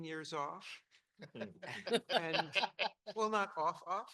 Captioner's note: panel laughing